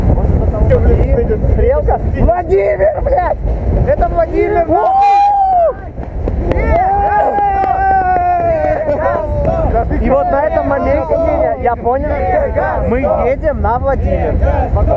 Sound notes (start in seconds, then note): 5.8 sounds of joy